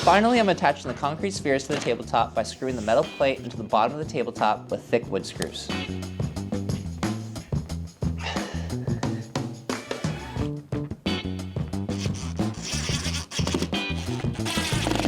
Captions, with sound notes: Finally, I'm attaching the concrete spheres to the tabletop by screwing the metal plate into the bottom of the tabletop with thick wood screws. (upbeat music continues) (drill whirs)